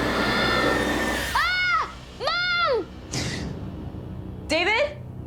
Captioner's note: screams